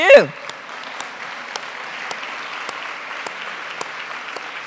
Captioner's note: audience clapping